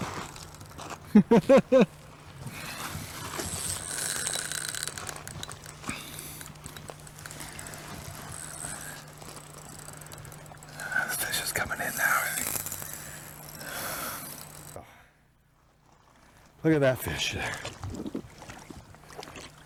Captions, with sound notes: [laughs] [water splashing] The fish is coming in now. Look at that fish there.